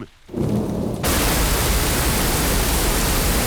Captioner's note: thunder rumbling